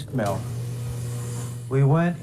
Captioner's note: machinery engine roars